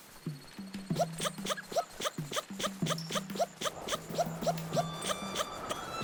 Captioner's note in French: voix de Link en accéléré